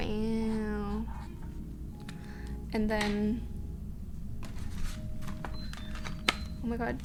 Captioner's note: dishwasher bewping